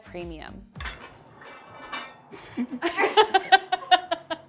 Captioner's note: object whirring; person laughing